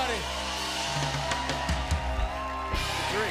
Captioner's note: cheers and applause